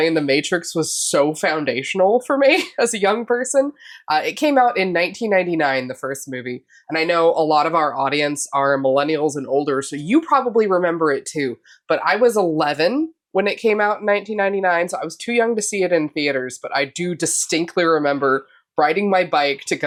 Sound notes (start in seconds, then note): none